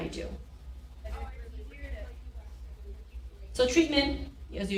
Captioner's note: people chattering